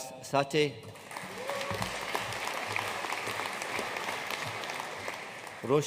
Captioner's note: audience cheering and applauding